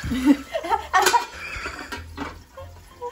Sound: laughs

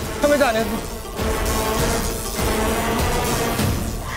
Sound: electric whirring

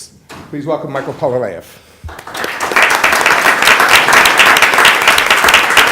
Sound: applause

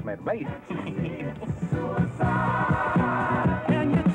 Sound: man laughs

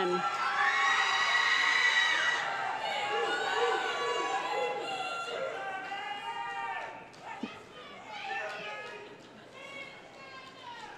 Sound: cheering

